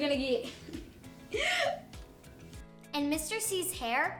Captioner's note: laughs